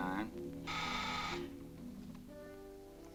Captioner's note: buzzer sounds